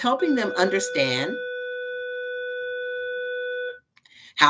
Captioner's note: school bell ringing